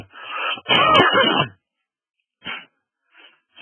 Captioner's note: sneezing